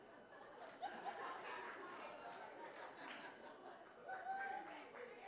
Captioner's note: audience laughing